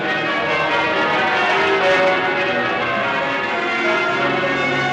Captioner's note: bells Pealing